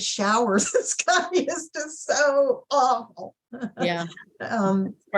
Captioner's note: laughing; laughing